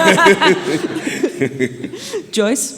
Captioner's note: audience laughing